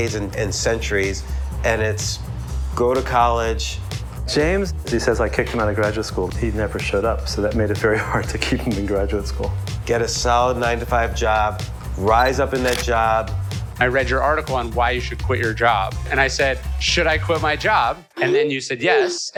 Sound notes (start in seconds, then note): 12.6 camera click